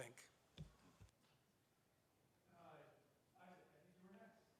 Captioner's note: man speaking off mic